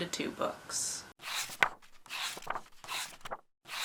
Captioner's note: pages turning